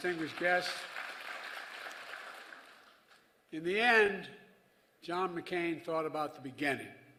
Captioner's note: applause